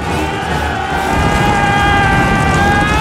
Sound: yelling

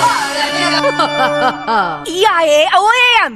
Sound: another british laugh

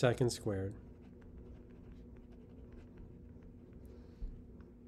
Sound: pen scratching

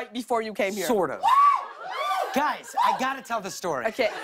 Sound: cheers and applause

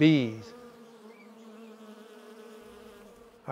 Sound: buzzing

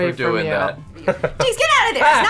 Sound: laughs

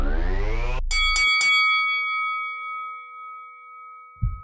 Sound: bell dinging

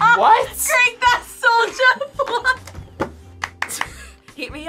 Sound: laughs

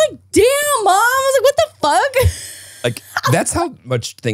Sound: laughing

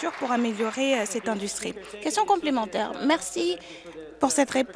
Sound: applause

